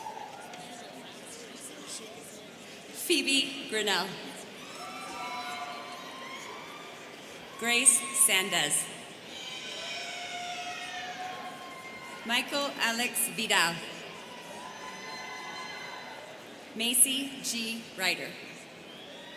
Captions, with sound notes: (students chattering) Phoebe Grinnell. (students cheering) Grace Sandez. (students cheering) Michael Alex Vidal. (students cheering) Maci G. Ryder.